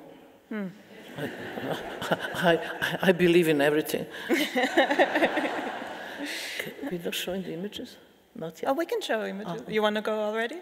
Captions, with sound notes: (audience laughing) I believe in everything. (laughing) We're not showing the images, not yet. - Oh, we can show images, you wanna go already?